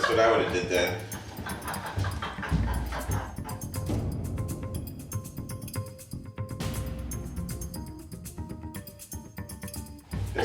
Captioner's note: laughter